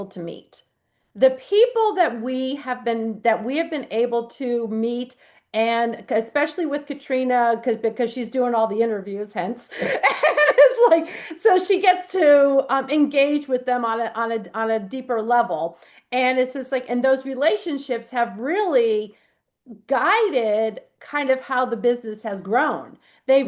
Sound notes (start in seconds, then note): 9.8 laughs